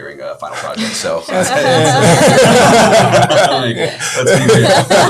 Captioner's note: all laughing